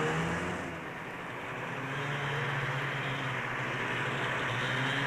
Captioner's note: snowmobiles driving